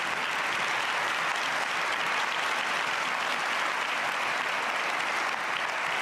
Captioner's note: cheers and applause